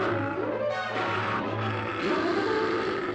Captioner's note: snarling